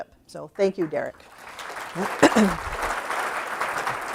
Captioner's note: applause